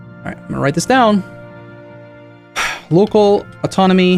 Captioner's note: warning tone; determined sigh